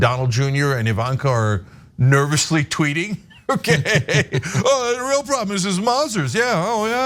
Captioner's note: laugh